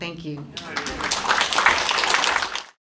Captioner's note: applause